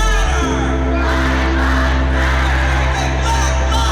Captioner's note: crowd